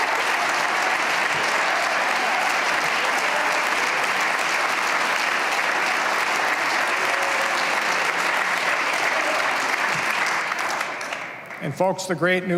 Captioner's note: cheers and applause